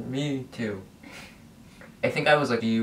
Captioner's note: laughs